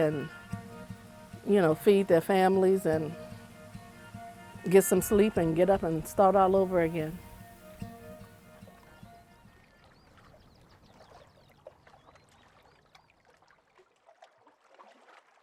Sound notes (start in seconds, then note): 9.6 birds chirping; 9.6 water lapping